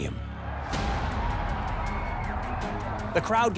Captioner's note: crowd cheering; intriguing dramatic music